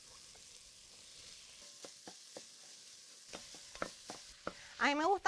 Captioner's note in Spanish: chisporroteo